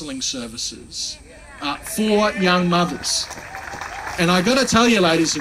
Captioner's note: applauding